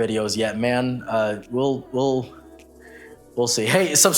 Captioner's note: stutters once more